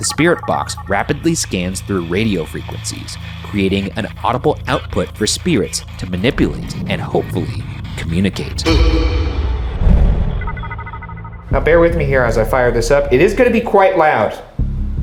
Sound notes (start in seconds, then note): 10.7 alarm chimes